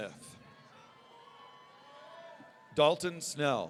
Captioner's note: audience cheering